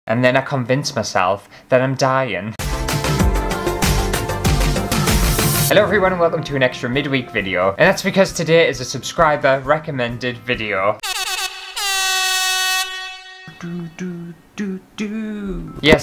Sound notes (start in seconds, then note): 2.6 intro Music; 11.0 air horn!!